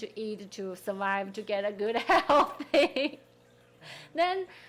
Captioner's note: laughing